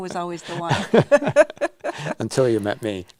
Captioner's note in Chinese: 笑聲